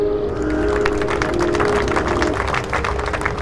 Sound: applause

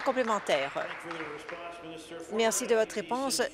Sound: applause

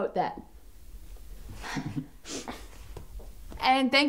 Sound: breaths, chuckles

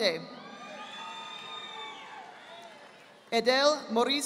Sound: audience applauding

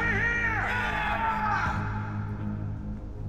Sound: men cheering

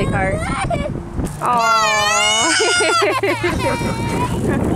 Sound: cries; laughs

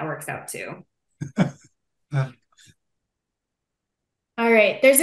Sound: laughing

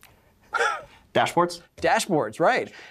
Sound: chuckles

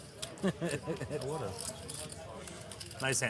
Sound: laughing

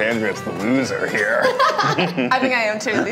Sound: laughs

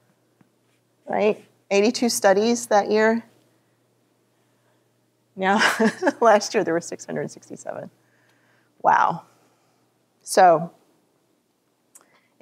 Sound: laughter

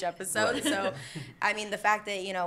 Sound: laughter

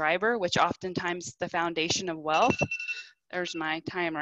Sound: timer beeping

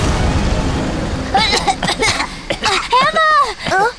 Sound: coughing

